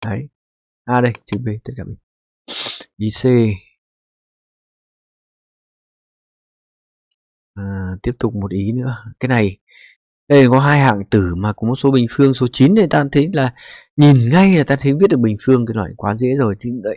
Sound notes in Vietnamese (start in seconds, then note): 2.5 khịt mũi